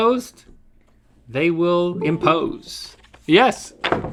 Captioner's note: computer chimes